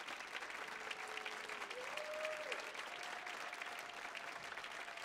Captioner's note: audience cheering